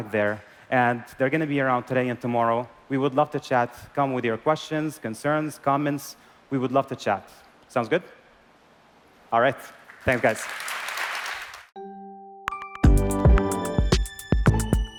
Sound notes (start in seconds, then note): 9.8 applause